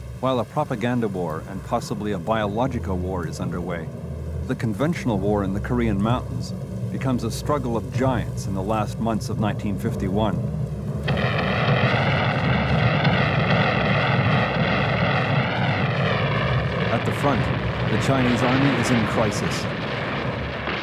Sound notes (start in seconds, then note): 11.2 explosions boom